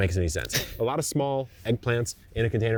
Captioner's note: chuckling